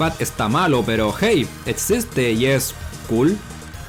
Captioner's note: none